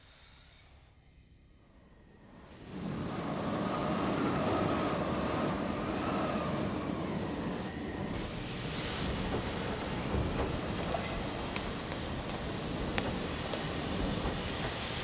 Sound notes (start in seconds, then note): 2.7 wind howling; 8.0 steam hissing